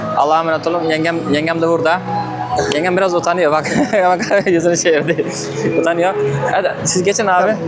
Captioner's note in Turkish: kahkaha